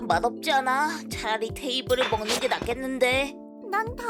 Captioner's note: fork clatters onto the floor